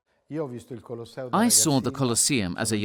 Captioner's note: speaking in foreign language